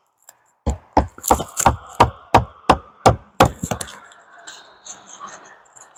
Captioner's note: hammering